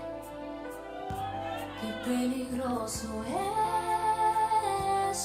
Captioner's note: audience cheering